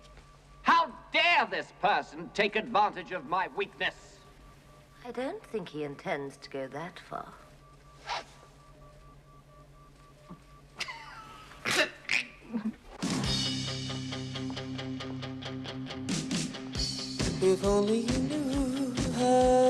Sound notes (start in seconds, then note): 9.0 Оба хихикают